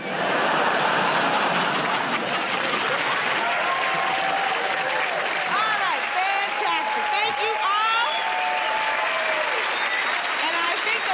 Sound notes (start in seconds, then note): 0.0 laughter; 3.8 cheering and applause; 9.0 cheering and applause